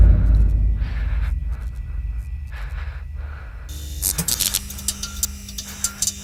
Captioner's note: labored breathing; electricity buzzing